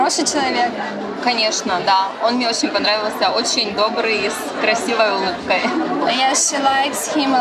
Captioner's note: speaks ukrainian